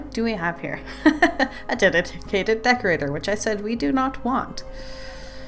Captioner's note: laughs